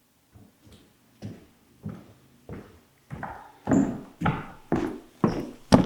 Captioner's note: footsteps tapping